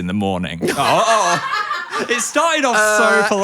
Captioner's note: laughing